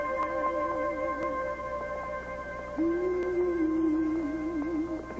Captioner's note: Reva humming